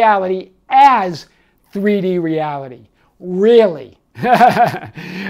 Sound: laughs

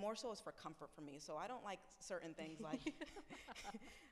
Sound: laughs

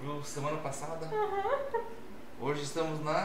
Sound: laughs

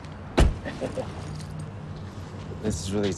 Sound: laughs

